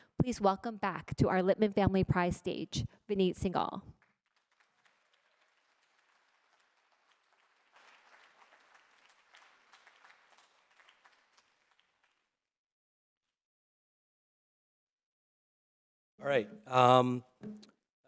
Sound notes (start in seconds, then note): 3.9 applause